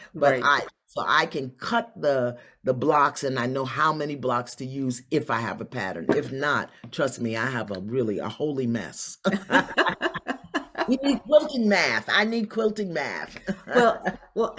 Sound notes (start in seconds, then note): 9.3 both laugh; 13.9 laughs